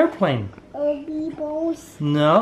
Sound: babbles

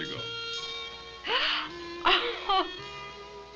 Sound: gasping; laughing

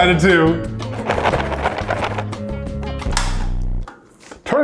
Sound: cereal rustles; dial clicks

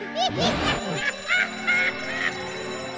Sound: alarm rings

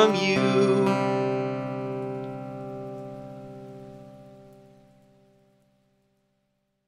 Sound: soft rain outside

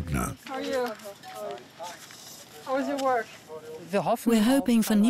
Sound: background chatter

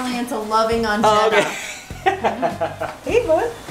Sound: laughs loudly

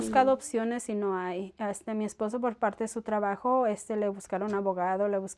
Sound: speaking foreign language

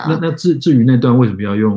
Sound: speaks mandarin

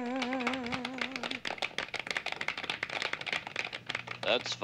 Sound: applause

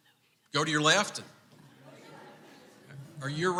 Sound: crowd laughing

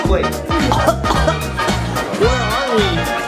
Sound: coughing

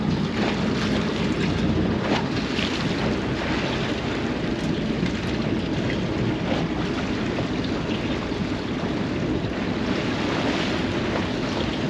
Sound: splashing

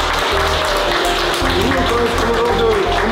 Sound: applause

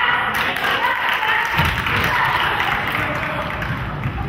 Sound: crowd claps

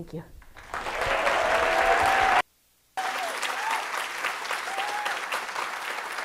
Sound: audience applauding and cheering

